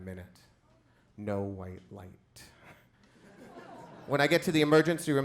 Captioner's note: chuckles